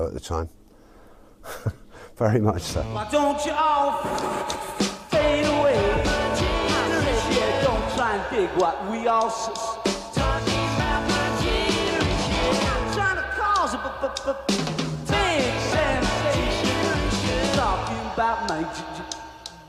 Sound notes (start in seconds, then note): 2.9 laughs